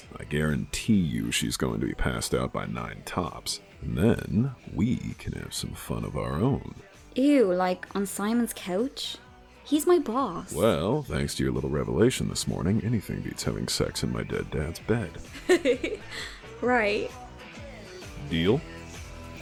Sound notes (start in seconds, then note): 15.2 laughs